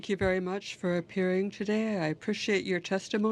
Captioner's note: speaking french